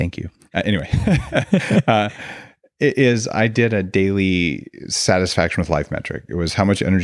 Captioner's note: laughs